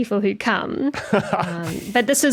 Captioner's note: laughs